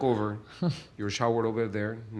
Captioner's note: laughs